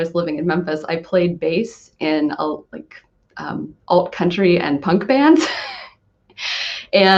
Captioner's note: laughs